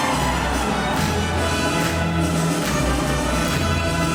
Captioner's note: medium tempo upbeat classical music; hands clapping